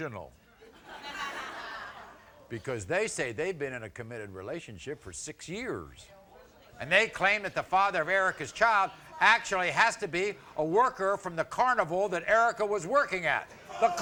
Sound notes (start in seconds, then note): 0.6 crowd laughing